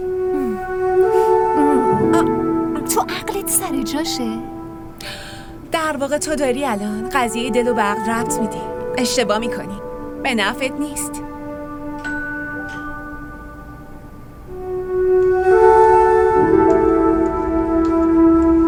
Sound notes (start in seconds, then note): 11.9 door bell rings